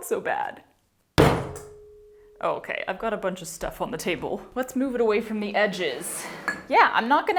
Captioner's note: even more dramatic thud